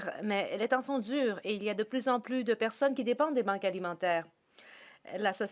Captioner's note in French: voix de l'interprète